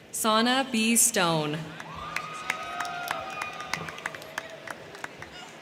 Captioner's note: crowd cheering